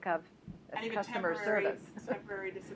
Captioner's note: laughter